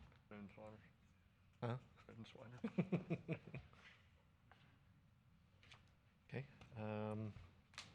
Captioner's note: laughter